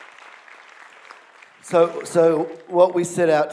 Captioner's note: applause